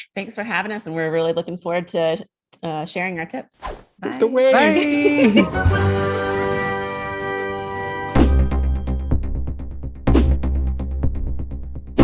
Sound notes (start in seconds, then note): 3.6 page whooshes; 4.6 upbeat music; 4.6 laughs; 8.1 dramatic music